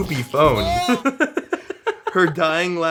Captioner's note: chuckles